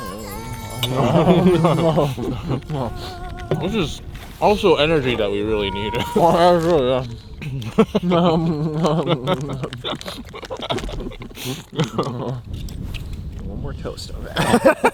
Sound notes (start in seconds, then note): 0.9 both chuckle; 7.4 both laugh